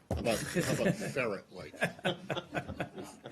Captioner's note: laughter